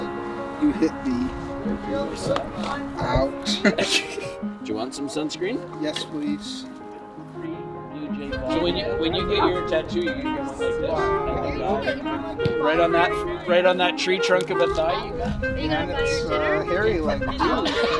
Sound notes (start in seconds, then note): 2.5 laughing